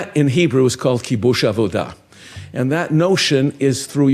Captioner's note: speaking in foreign language